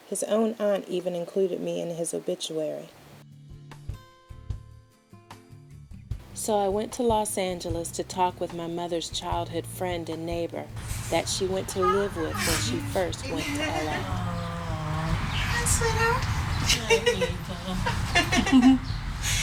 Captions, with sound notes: His own aunt even included me in his obituary. So I went to Los Angeles to talk with my mother's childhood friend and neighbor. That she went to live with,. Hi. When she first went to L.A. Hey Sweetheart. (laughter) Awww. You look like your Mama (laughter, kiss)